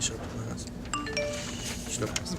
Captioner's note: phone notification